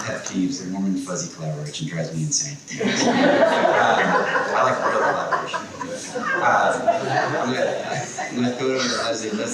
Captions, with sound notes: - My pet peeves, the warm and fuzzy collaboration drives me insane. (people laughing) I like collaboration. I'm gonna over Leslie.